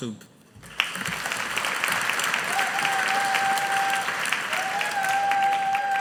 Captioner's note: audience applauding